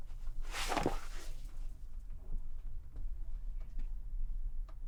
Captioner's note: clothing rustles